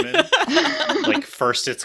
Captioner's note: laugh